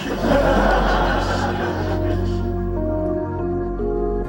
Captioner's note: crowd laughs